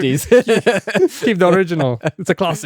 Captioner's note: laughing